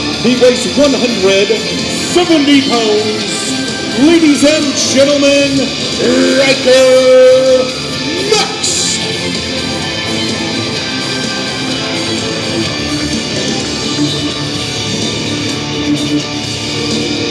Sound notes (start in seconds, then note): 9.3 crowd shouts and cheers